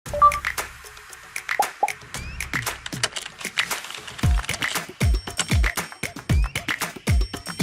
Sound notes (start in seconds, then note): 0.1 phone chiming; 1.5 upbeat music; 1.6 keyboard tapping; 4.9 upbeat music